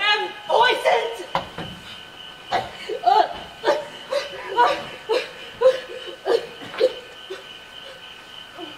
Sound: Gertrude coughs, gasps

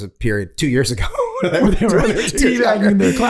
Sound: Rob laughing

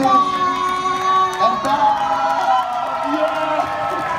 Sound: crowd cheering

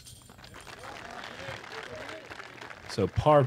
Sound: applause

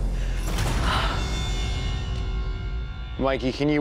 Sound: sighs

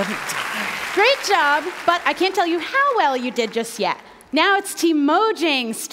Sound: cheering

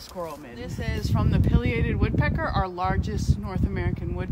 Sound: wind blowing across the microphone

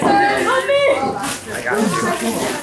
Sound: family chatters excitedly

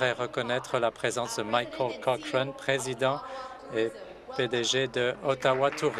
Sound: speaking in French

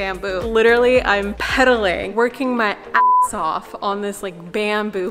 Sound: beep

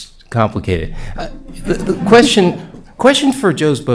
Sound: laughter

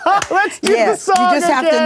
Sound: all laughing

